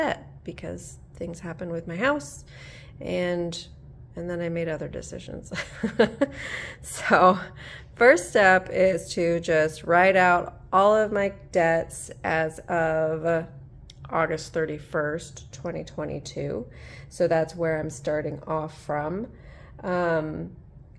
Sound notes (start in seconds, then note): 5.5 laughter